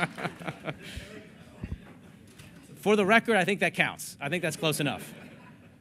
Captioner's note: laughter